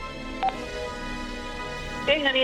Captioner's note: teléfono suena